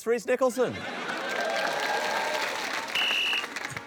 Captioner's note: cheering, applause; blows whistle